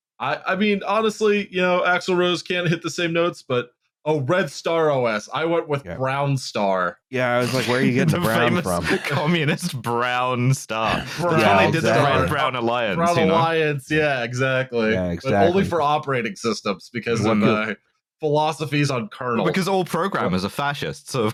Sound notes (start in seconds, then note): 7.4 laughing; 7.4 laughter; 10.8 laughing